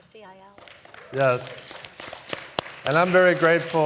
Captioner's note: applause